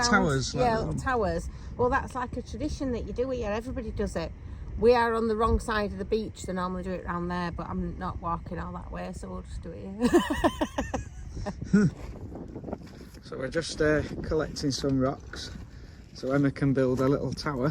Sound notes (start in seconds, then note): 10.0 laughing